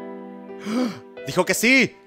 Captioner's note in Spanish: respira profundo